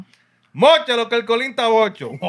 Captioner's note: speaking Spanish